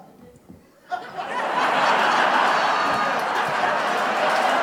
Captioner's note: applause